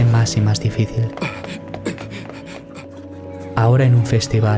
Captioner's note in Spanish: pasos